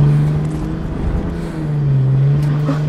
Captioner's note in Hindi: कार का इंजन जोर से घूमने की आवाज